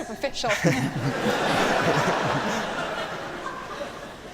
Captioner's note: laughter